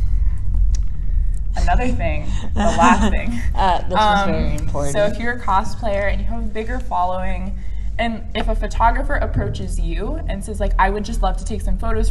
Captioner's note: laughing